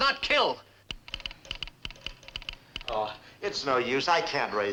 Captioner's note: telegraph machine clicking